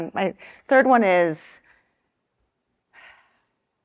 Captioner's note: sighs